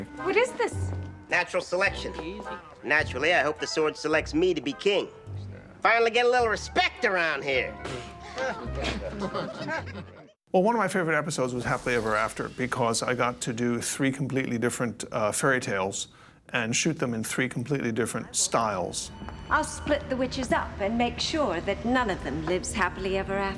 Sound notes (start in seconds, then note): 7.8 laughing